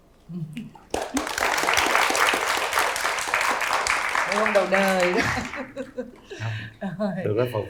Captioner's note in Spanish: Aplaudir